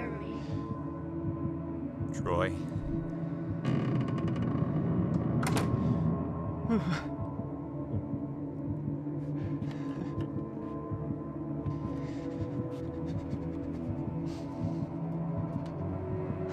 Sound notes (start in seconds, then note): 3.6 creaking; 5.3 door closes; 5.9 shudders